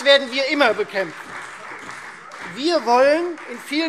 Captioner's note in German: Beifall Freie Demokraten und vereinzelt CDU – Zuruf AfD